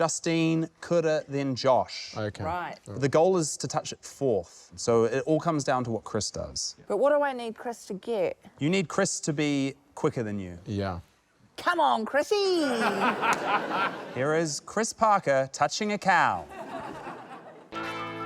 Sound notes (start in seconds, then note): 12.7 laughter; 16.4 laughter